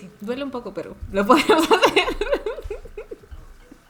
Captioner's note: cracks joke in spanish about Lucía hitting her head